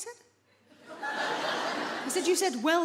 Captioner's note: audience laughs